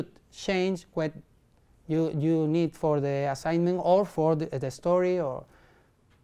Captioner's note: sigh